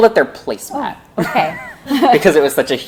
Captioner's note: laughs